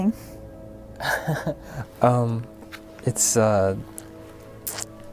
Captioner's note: chuckling